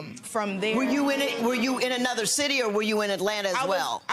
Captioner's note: audience groans